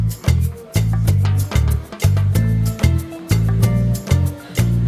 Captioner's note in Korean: ㅋㅋ